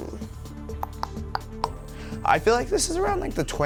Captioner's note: clicking tongue